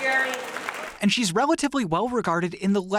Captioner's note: applause